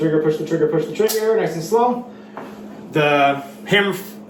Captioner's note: clicking